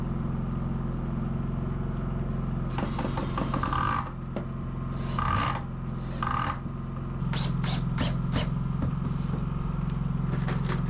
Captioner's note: motor whirring